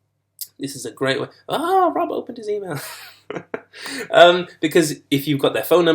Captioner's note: laughs